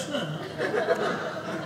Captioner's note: audience laughing